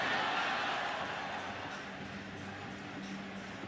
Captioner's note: crowd clamoring